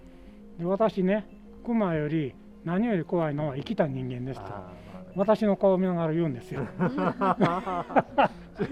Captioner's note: laughs